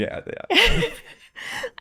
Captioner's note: laughing